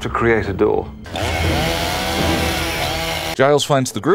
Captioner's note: chainsaw noises